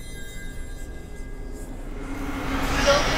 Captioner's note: eerie whispering; dramatic music